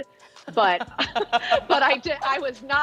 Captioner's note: both laughing